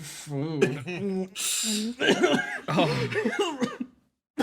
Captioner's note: coughs